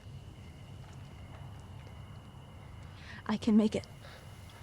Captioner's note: cicadas buzzing